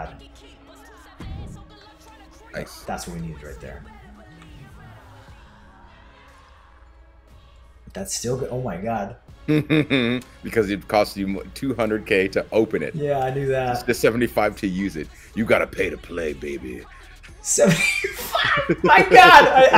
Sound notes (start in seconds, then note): 9.5 laugh; 16.8 laugh